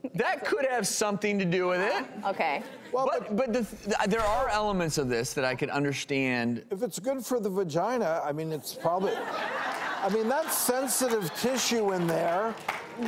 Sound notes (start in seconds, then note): 2.9 laughter; 8.8 audience Laughter